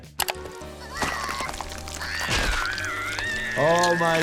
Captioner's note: Sniffles screaming